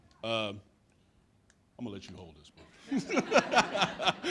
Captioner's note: laughs